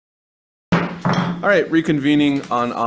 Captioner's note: loud thump